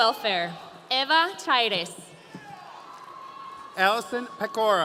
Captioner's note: audience cheering